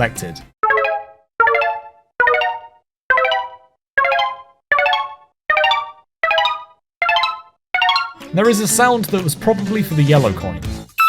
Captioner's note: 10 sounds, increasing in pitch each time